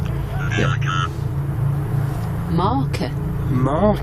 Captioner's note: Ovilus speaking